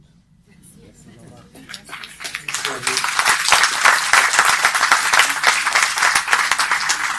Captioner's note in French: applaudissements